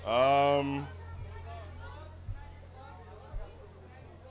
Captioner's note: crowd chattering